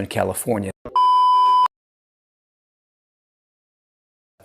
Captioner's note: beeping